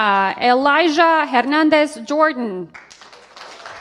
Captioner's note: applause